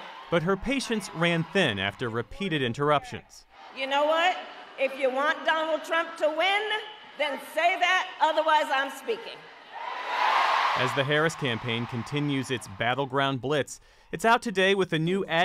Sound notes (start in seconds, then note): 10.3 applause; 10.7 cheering